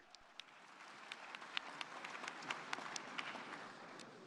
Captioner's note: audience applauding